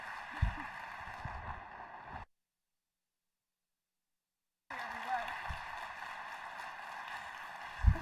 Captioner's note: cheering and applause